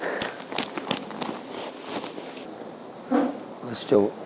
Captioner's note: sniff sniff